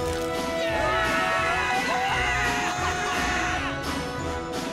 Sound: cheering

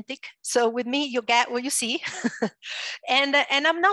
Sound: laughs

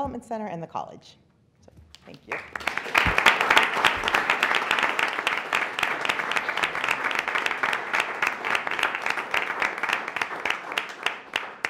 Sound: applause

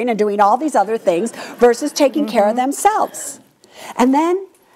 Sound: audience laughs

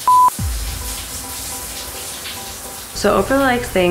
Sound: shower running

